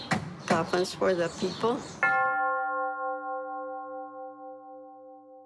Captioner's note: bell tolls